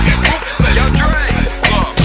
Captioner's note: bang